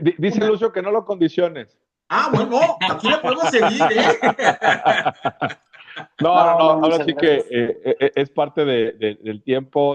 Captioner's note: risas